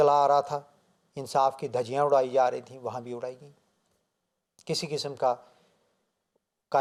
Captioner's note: Farsi